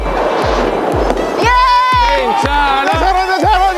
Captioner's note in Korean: 환호